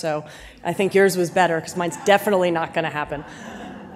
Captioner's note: audience laughs